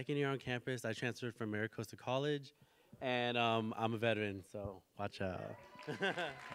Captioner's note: applause